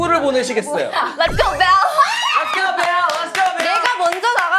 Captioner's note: shrieks